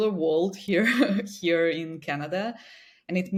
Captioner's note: chuckles